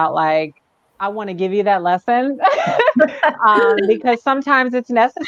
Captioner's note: laughter